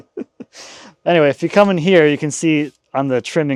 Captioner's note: laughing